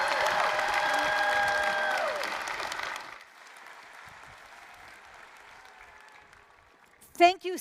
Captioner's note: applause, cheering